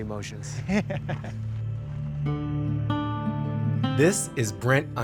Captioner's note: laughing